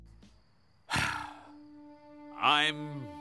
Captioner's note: sighs